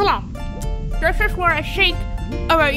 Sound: mouth full; smacks

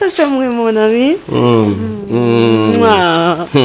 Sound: cuddly kiss

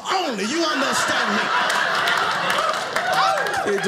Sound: audience laughing

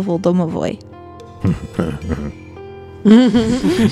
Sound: makes pleased little grunting sounds

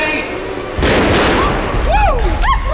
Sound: explosions

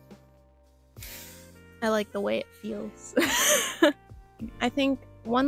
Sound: laughter

